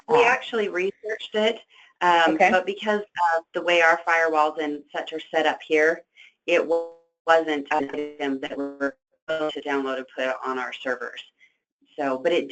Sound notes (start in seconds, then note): 7.6 static